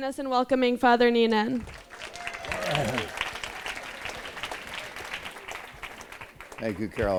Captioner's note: applause